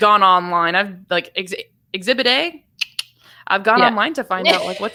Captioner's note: clicks tongue; laughs